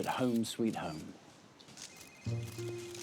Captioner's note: phone rings